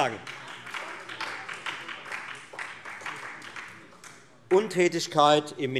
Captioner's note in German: Beifall Freie Demokraten und SPD